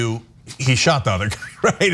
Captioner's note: laugh